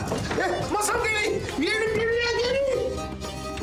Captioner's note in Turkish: Bağırıyor